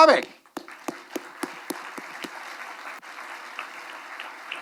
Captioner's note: attendees applauding